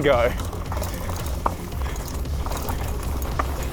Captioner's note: bike rattling